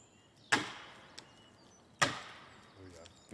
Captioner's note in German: Hämmern